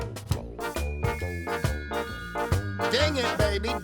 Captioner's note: bell rings